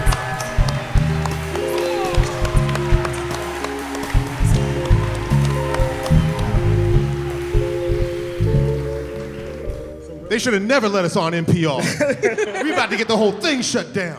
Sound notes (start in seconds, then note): 4.1 cheering; 11.8 laughter